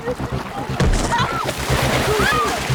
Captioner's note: water splashing